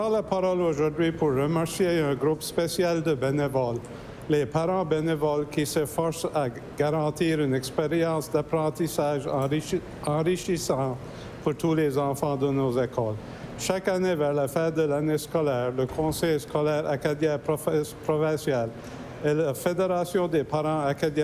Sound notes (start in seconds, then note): 5.8 speaking French